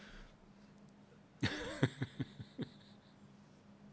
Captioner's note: laughs